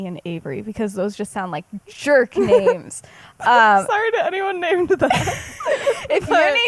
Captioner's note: laughs